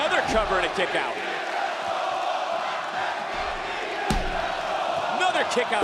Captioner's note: audience cheering